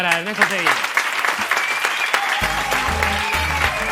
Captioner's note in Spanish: Aplausos